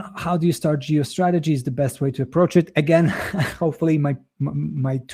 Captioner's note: chuckles